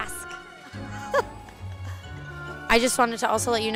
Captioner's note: laughs